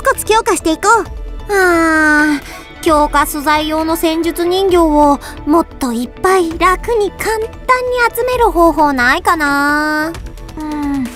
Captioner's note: sigh